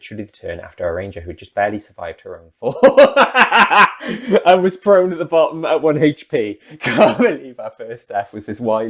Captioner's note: big laugh